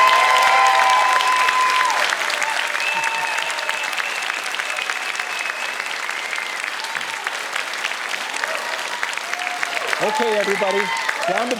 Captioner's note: cheers and Applause